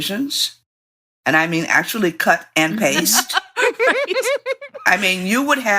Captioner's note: laughter